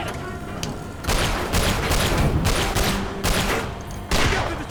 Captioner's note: gunshot